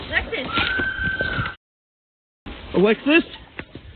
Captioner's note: voice screeching